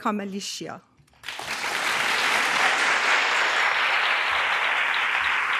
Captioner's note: audience applause